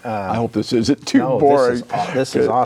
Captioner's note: laughing